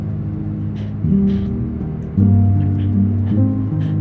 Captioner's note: dog panting